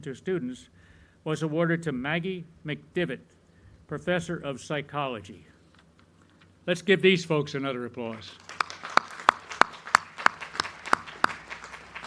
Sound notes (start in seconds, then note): 8.1 crowd clapping